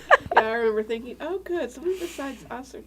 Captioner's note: laughing